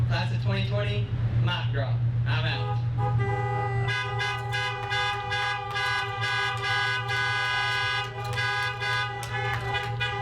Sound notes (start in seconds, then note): 2.6 horns honking; 4.2 clapping